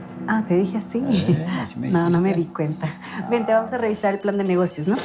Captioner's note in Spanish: Suena un celular